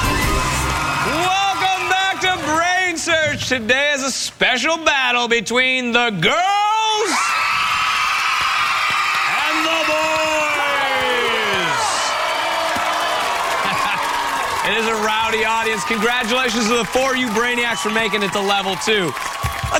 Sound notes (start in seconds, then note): 0.0 upbeat music; 9.4 girls cheering; 13.4 laughs; 14.6 boys cheering